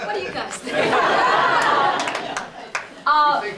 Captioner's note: laughter